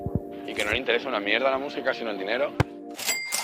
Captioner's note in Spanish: voz en off